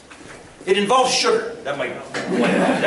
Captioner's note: laughter